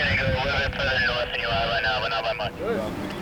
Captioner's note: sound of radio voice